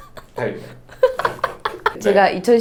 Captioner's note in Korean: 웃음